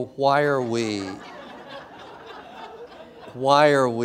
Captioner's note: laughter